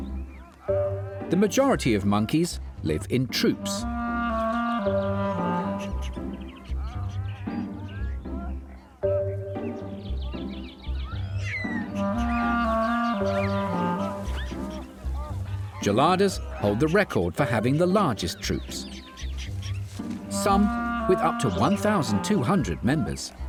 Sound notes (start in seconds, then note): 7.0 monkey chatter